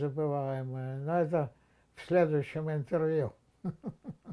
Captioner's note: laughing